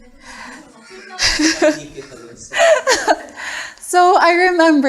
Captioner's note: laughter